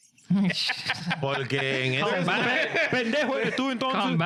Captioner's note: speaking In Foreign Language